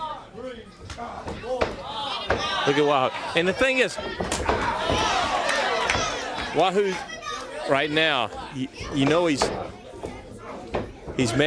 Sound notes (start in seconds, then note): 0.1 crowd chatter; 5.1 crowd cheering